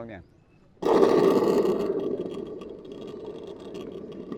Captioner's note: creates thunder sound